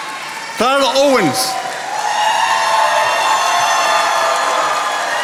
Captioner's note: attendees applauding